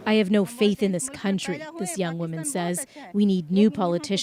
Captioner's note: speaking alternate language